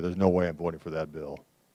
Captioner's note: none